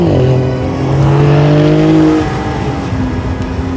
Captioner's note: engine revving